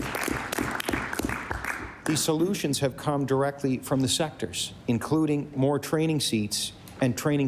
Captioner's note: applause